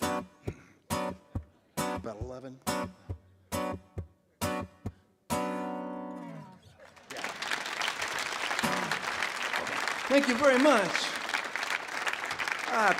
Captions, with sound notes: How many was that? About 11? (audience applauds) Yeah. Thank you very much.